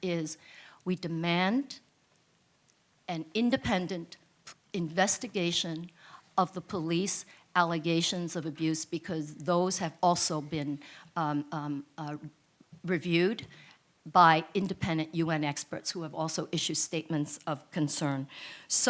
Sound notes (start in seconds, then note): none